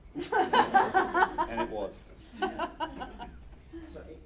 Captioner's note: laughter